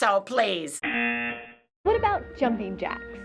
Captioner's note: buzzer